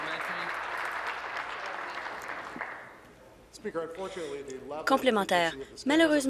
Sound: applause

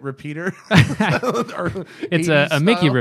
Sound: laughter

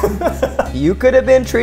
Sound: laughs

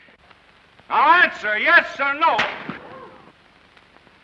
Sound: splash

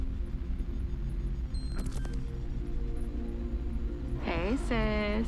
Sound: soft dramatic music; computer beeps and clicks

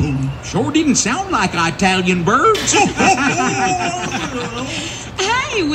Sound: laughter

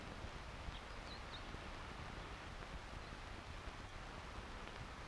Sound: birds chirping

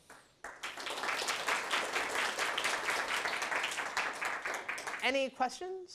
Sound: applause

